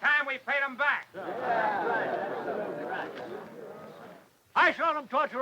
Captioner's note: townsfolk murmur